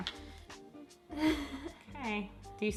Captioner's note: laughs